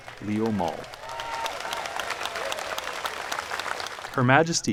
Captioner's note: applause